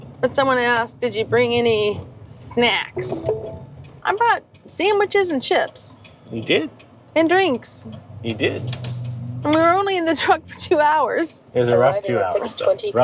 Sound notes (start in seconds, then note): 2.9 beeping, the you've arrived sound